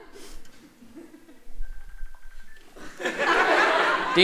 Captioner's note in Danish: mobil ringer stadig